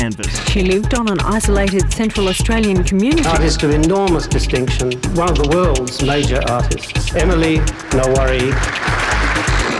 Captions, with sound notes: She lived on an isolated Central Australian community [distortion] artist of enormous distinction one of the world's major artists Emily Kngwarray